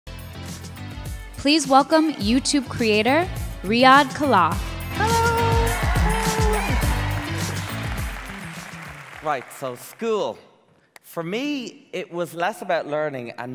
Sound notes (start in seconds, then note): 0.1 upbeat electronic music; 5.0 applauding